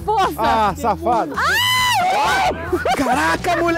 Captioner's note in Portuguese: gritos